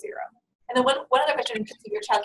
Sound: voiceover

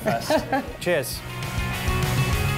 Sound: laughs

